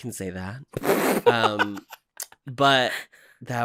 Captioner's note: spluttering laughter